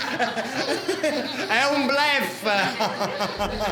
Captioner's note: laughter